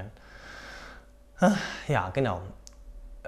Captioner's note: sigh